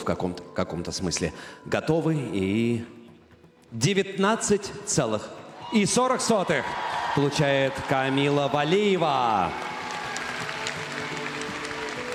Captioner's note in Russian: аплодисменты